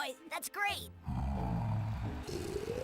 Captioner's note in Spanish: ronca